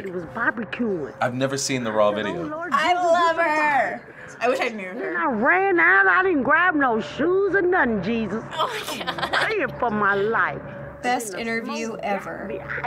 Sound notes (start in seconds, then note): 8.5 laughing